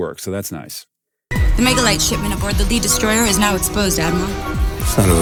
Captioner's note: movie dialogue plays